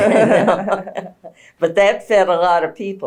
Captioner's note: laughter